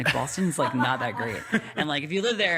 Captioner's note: laughing